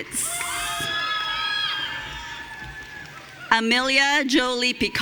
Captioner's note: audience cheering